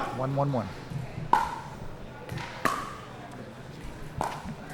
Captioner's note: ball clacking